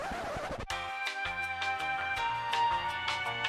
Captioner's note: record scratching; elevator music